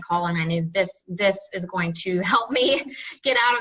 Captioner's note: laughs